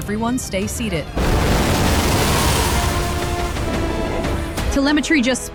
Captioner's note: satellites burning sound in the sky